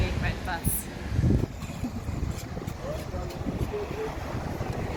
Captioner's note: bus engine revving